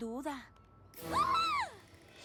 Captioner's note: shriek